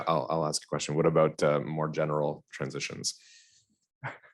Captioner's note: laughs